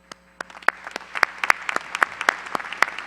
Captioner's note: applause